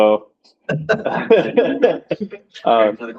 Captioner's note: laughter